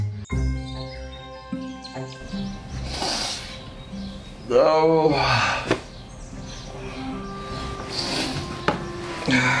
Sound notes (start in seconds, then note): 0.3 birds chirping; 3.0 inhales; 4.5 groans